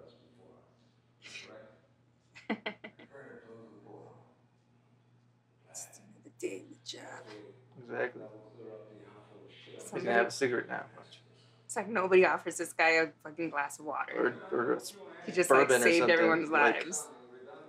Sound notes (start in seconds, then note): 2.4 she chuckles; 2.4 she half-laughs; 3.2 creeks and hums from the room